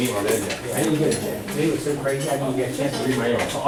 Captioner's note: chatter